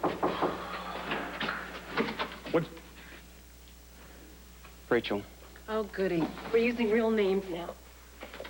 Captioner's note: knock on door